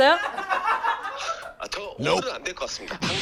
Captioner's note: nervous laughter